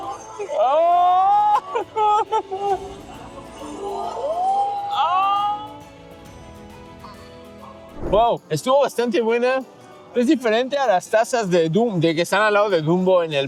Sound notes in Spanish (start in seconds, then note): 0.1 risas; 2.5 grito